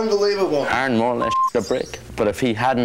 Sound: beep

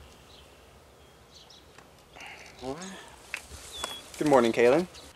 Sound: birds Chirping And Disturbing Beauty Sleep

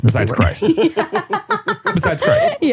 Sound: laughs

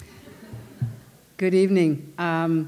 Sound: laughter

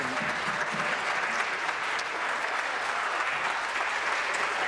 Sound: applause

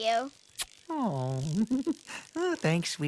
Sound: giggles

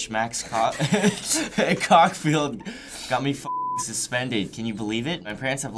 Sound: laughs

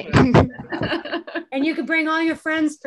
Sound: laughs

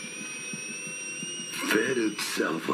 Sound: distorted

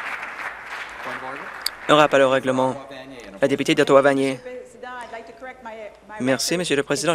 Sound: some Applause

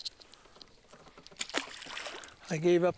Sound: splash

